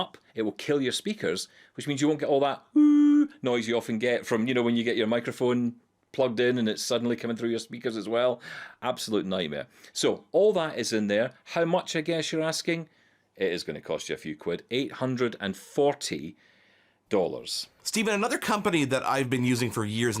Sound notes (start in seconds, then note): 2.8 humming